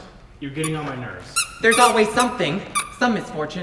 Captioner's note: extremely squeaky shoes